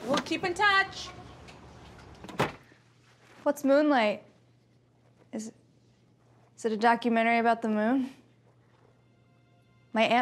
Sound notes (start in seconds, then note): 1.9 door closes